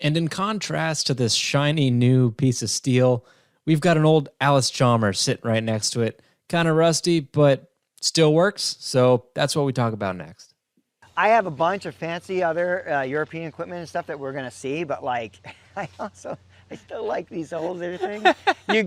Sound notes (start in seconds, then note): 15.5 chuckles